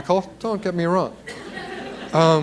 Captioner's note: laughter